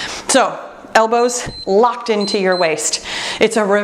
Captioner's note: timer beeps